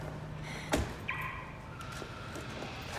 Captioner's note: car alarm chirps